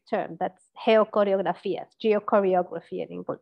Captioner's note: speaks in a foreign language